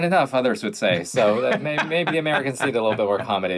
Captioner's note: Ian laughing